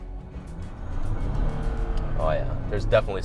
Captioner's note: car engine roaring